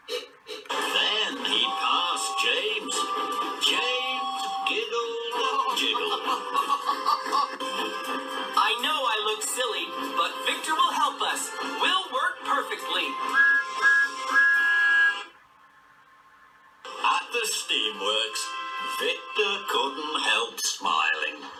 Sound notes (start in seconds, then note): 5.4 james giggling; 13.1 thomas tooting